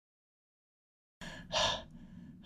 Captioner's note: exhale